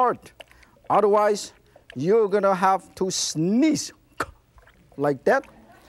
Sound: sneezes

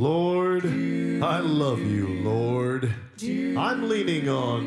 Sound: spoken in low voice

